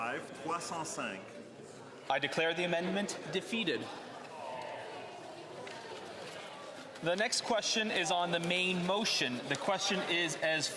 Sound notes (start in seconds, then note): 2.4 speaking French; 5.9 speaking French